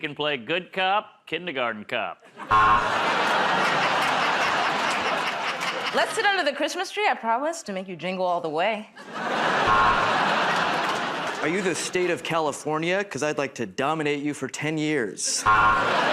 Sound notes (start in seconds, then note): 2.5 buzzer; 4.4 laughter; 9.6 buzzer; 15.4 buzzer